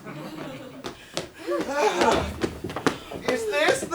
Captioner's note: audience laughs